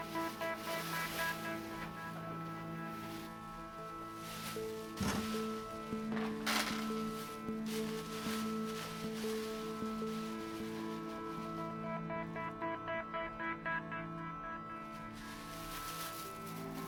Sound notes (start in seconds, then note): 0.1 bag rustling; 6.1 purse rattling; 7.9 bag rustling